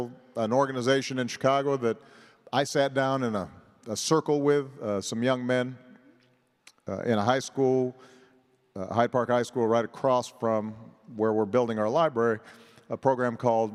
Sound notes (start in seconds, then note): none